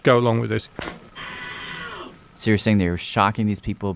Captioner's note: screaming